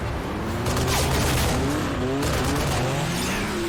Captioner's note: gunfire continues